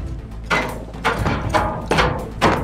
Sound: steps on metal stairs

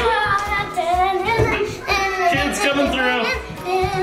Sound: kids chattering

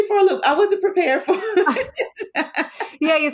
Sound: both laughing

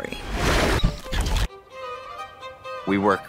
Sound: screen whooshing

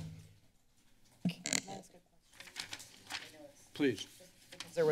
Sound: mic noise; paper rustling

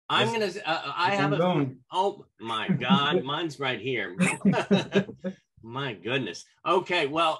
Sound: laughter

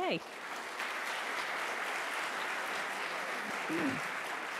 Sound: audience applauds

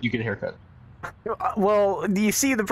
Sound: exhale

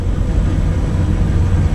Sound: bus engine

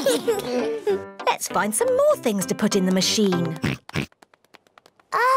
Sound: oinks

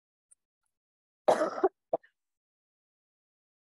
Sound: coughs

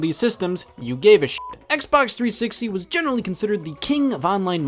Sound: beep

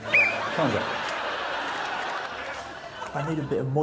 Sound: whistles

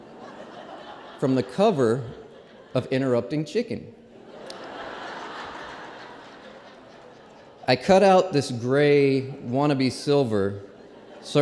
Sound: laughter

